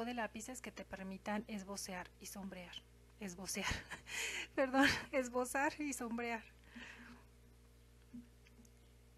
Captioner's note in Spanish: risas